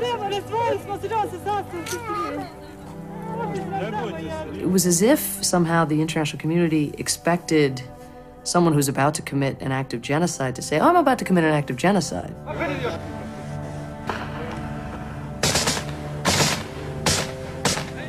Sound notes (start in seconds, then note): 12.4 men chattering; 13.5 gunfire